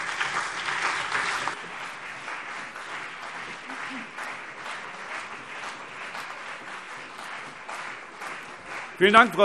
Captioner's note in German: Anhaltender Beifall CDU und BÜNDNIS 90/DIE GRÜNEN